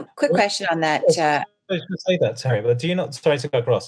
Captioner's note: group chatters